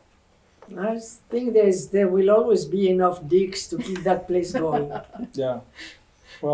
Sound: laughter

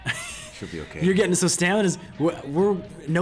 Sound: laugh

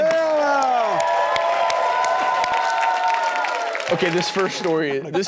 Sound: audience clapping and cheering

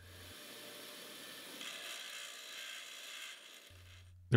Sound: machine grinding

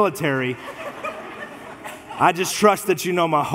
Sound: congregation laughs

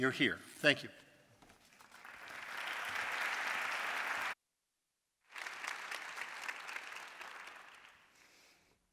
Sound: applause

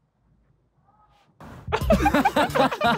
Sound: distant person screaming; all laughing

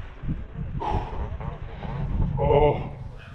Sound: sighs

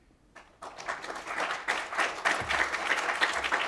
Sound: applause

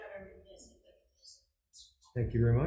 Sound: faintly speaking

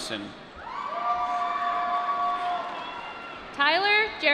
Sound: applause

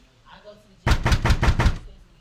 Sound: heavy knocking

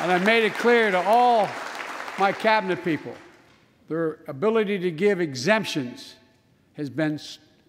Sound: applause

